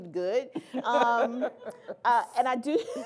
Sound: laughter

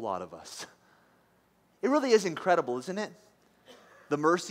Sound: laughs

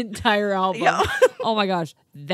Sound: laughs

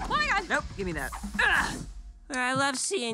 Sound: grunts

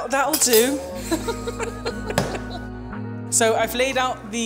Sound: both giggling

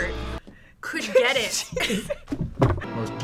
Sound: laughs

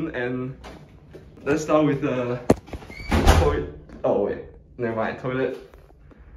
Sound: 門碰的一聲

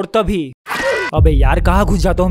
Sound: scream

